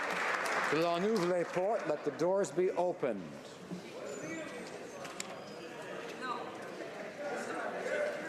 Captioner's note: applause